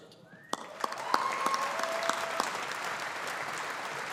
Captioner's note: audience applauding